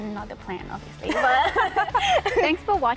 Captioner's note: boith laugh